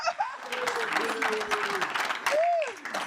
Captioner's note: audience applauding